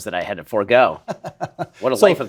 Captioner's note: laughing